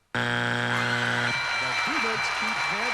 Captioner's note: screaming